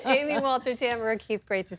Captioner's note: laughter